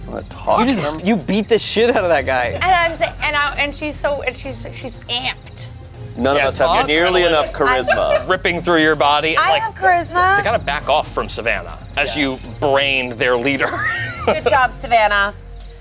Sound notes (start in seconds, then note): 13.4 laughs